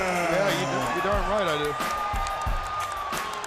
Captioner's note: crowd cheering